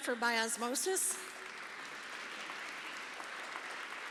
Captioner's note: applause